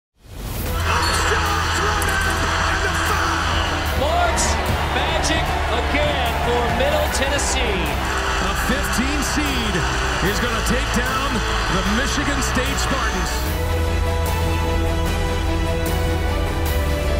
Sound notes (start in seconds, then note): 0.5 crowd cheering